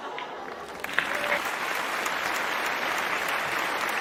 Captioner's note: applause